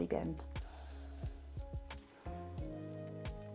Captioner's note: exhales